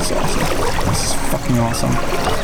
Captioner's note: swishing